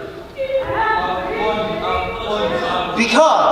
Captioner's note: mocking birds echo